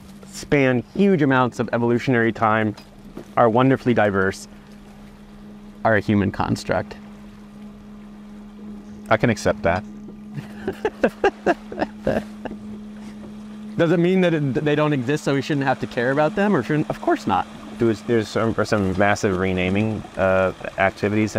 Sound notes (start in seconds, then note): 10.3 chuckling